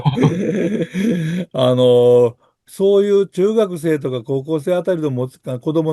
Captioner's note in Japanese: 笑い